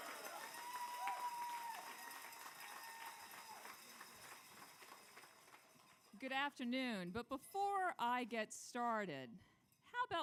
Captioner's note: cheers and applause